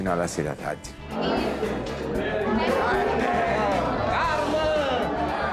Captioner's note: sounds of restaurant patrons